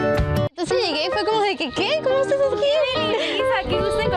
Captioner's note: chatering